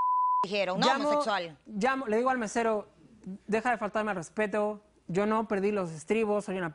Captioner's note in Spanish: Bip